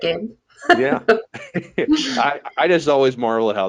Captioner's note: laughing